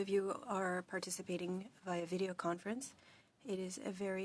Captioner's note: speaking French